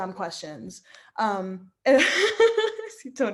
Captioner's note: laughing